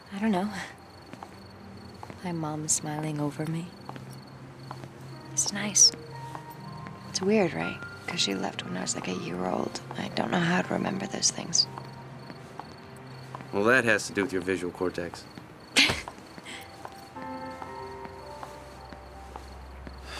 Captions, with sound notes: - I don't know. My Mom's smiling over me. It's nice. It's weird, right? 'Cause she left when I was like a year old. I dunno how to remember those things. - Well, that has to do with your visual cortex. (Mindy chuckles)